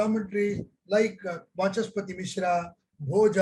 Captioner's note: speaks in Hindi